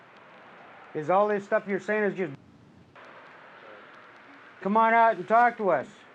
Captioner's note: muted